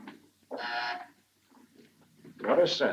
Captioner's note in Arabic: طنين الباب